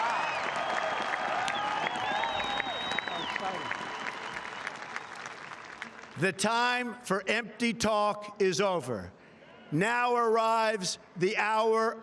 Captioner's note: applause